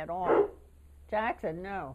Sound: dog barking

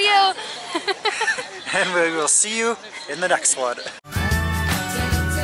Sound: laughter

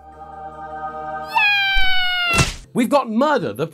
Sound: angelic choir; splat

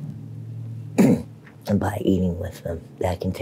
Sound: clears throat

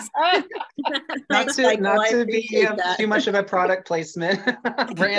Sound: laughter

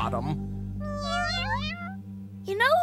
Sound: meowing

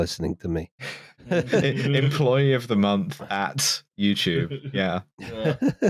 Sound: laughter; laughs

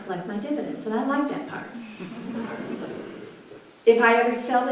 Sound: audience laughter

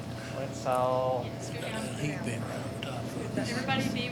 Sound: faintly speaking

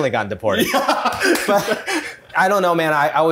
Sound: laughter

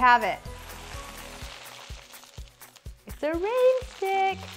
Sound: contents shaking around

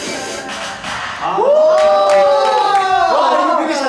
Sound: loud cheers

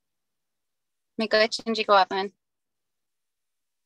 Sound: speaking native language

